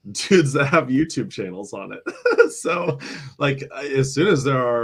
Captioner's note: laughter